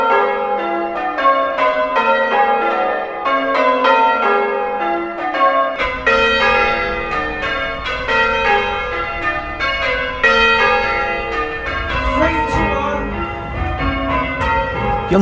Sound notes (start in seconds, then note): 12.1 bells ringing